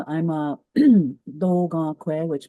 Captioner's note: speaks in Cree